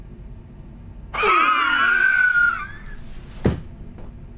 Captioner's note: laughing